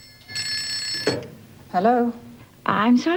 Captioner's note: phone rings